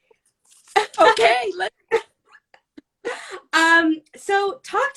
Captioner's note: laughs